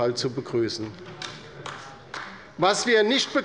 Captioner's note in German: Beifall bei der LINKEN